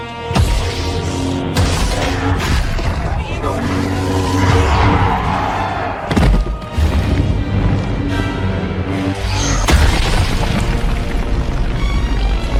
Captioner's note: alien language